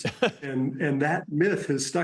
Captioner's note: laughter